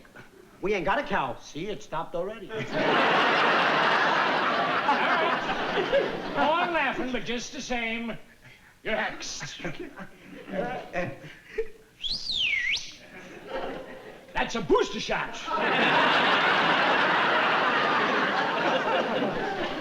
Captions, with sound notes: We ain't got a cow. See, it stopped already. Go on laughing, but just the same. You're hexed. [WHISTLING] That's a booster shot.